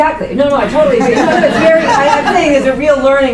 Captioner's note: laughter